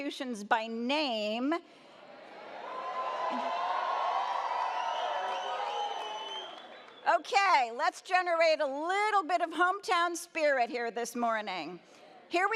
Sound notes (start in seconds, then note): 2.2 audience cheers